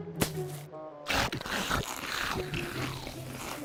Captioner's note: chewing